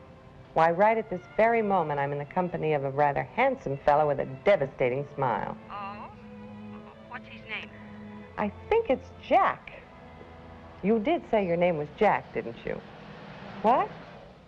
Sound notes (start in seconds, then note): 5.7 on phone